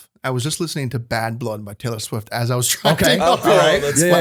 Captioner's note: laughter